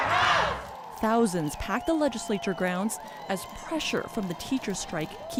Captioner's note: chanting